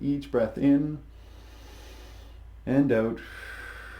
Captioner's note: inhales deeply; exhales deeply